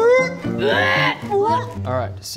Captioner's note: hrrrgh!